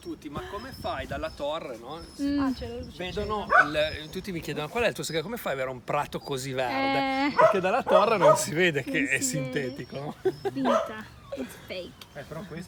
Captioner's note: laughter